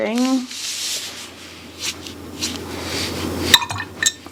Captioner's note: brush whirring